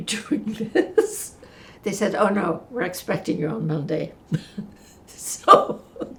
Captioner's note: laughing